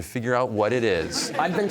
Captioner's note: laughter